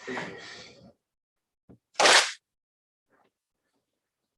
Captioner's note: clap